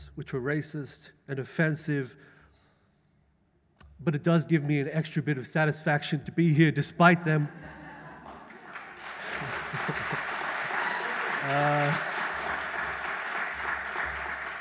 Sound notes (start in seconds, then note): 7.2 audience laughs; 8.0 audience applauds; 9.4 laughs